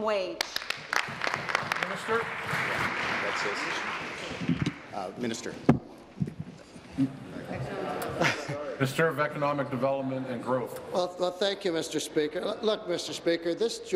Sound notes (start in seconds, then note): 4.6 applause